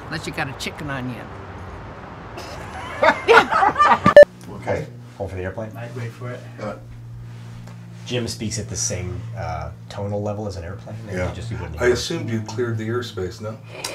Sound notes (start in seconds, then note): 2.4 raucous Laughter; 5.1 hum of airplane outside